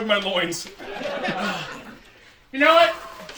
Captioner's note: laughter